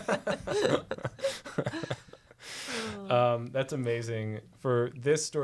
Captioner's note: both laughing